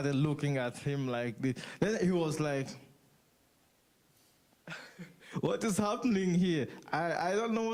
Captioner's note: laughs